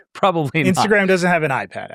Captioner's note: laughs